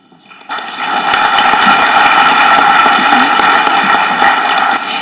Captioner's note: audience clapping